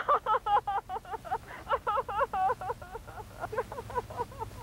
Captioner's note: sobbing